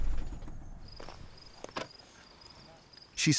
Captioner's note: insects chirping